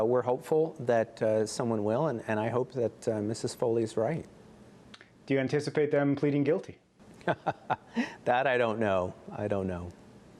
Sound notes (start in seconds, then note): 7.2 laughter